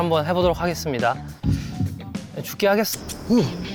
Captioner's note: deep breath